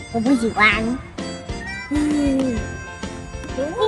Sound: laughing

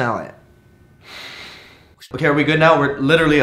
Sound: sigh

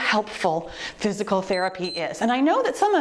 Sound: timer beeps

